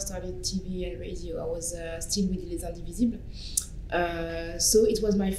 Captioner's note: french